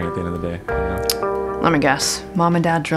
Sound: tsk

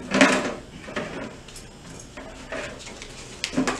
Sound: bucket clattering

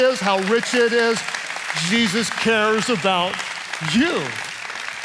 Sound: congregation applauding

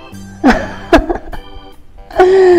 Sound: laughs

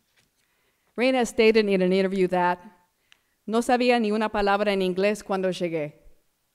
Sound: foreign language

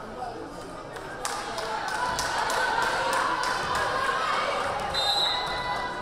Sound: crowd member clapping; whistle blaring

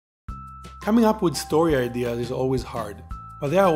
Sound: voiceover

